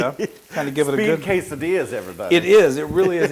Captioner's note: laugh